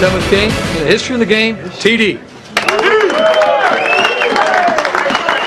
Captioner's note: cheers and applause